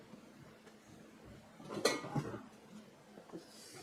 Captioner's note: clank